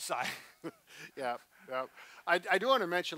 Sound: both laugh

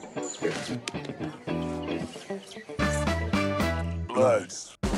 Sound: hand slapping

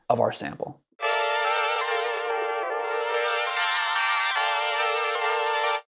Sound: audio sample fluctuating

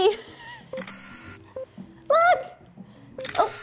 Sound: camera shutter clicking

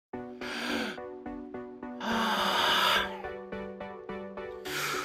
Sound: frustrated forced breathing

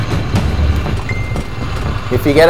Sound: bing

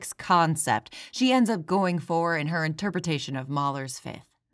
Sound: none

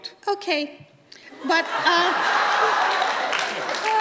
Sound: audience laughs

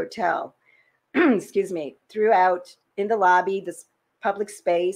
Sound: clears throat

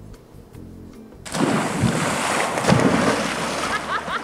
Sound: water splashing

